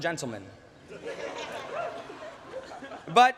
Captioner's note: laughter